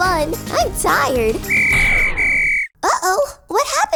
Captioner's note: whistle blowing